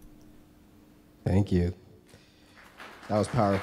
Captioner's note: audience applause